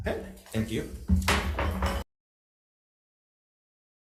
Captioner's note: gavel thuds